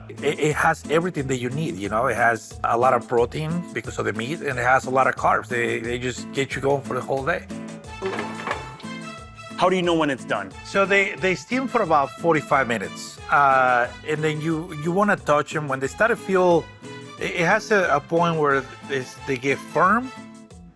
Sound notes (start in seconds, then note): 7.9 pot rattles